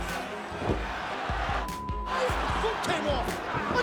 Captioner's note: beeps